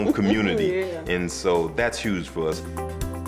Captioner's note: chuckling